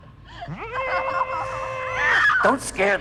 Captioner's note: Liz screaming; Buddy squeals